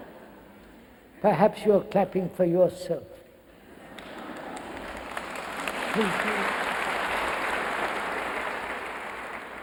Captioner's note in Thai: เสียงหัวเราะและปรบมือ